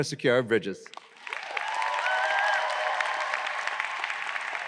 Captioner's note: audience cheering